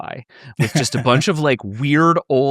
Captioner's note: laughing